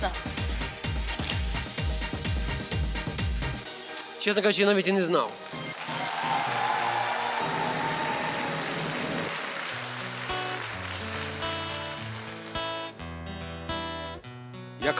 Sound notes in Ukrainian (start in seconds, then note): 7.3 оплески